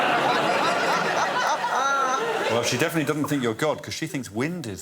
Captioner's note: laughter